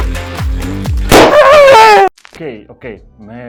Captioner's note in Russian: бах и крик